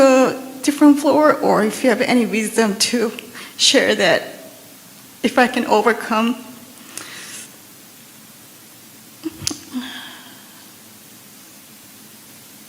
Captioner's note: questioner Sobbing